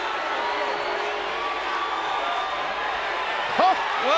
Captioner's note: crowd booing continues